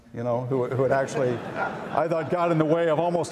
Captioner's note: audience laughs